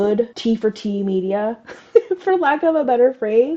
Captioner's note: laugh